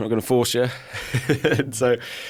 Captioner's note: chuckles